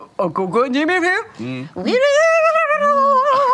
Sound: questioning grunt

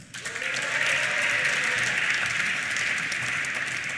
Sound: applause

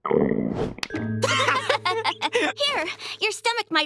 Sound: laughing

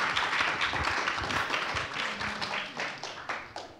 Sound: applause

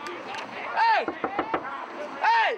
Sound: knocking on glass

